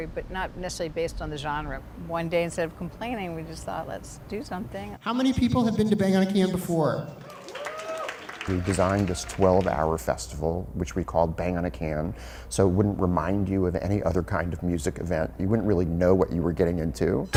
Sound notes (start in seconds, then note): 7.1 audience claps and cheers